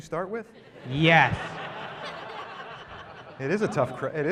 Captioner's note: laughter